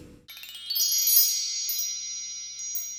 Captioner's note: chimes